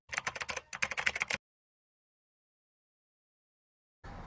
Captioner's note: typewriter clacking